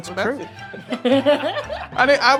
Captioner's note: all laughing